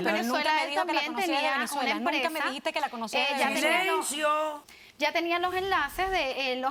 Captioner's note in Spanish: Hablan al unísono